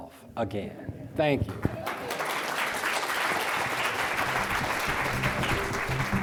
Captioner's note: audience applauding; upbeat music